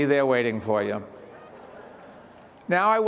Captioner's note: graduates and participants laughs